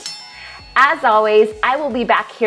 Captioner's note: bell dinging